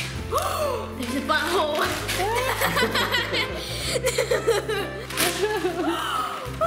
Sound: gasping; laughter

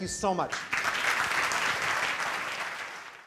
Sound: applause

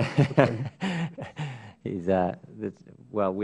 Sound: laughter

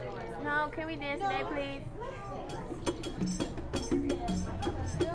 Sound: chattering

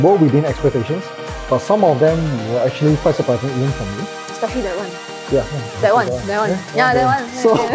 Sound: starts giggling

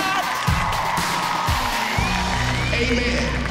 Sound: cheering and applause

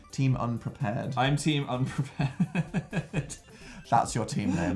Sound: laughs

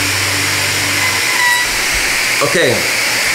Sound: electronic buzzing

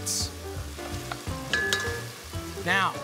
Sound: taps

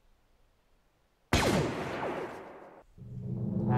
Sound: blaster fire

